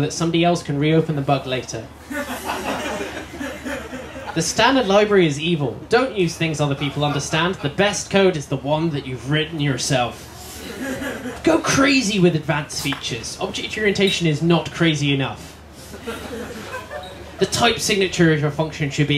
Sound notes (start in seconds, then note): 2.0 laughter